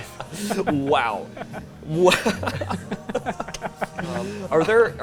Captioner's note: laughing